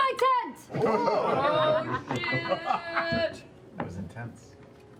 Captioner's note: laughter